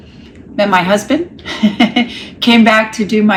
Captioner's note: laughs